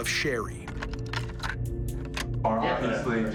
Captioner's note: clicking